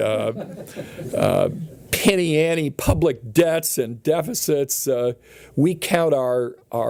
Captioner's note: chuckling